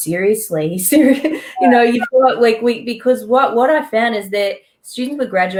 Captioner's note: chuckles